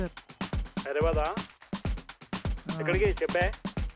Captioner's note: doubtfully